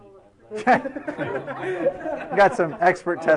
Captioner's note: laughing